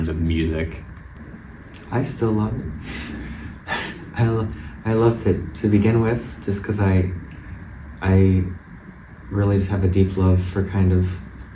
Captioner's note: laugh